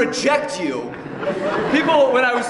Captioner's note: laughter